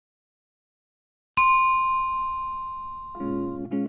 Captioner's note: chime sounds